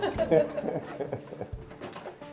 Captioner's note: laughter